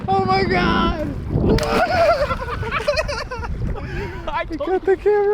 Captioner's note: guys laugh